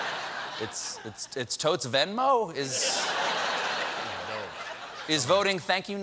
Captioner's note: laughter